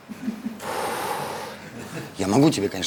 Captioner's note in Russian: Облегченный выдох Поперечного